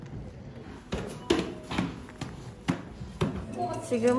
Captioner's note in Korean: 신난 발걸음